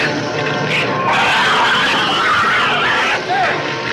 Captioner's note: dramatic orchestral music; shrew shrieks